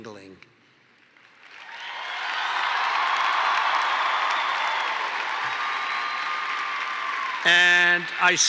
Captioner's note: applause